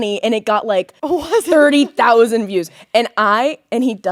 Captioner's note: laughing